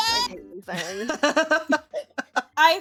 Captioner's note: laughing